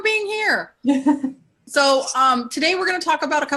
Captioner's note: laughs